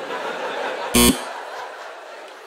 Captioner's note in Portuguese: campainha